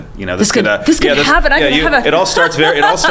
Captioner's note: laughing